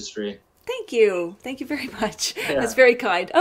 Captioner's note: laughs